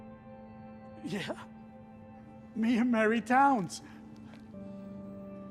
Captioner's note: laughs